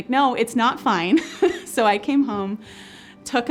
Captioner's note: laughs